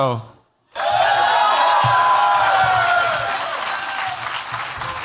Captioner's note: cheers, applause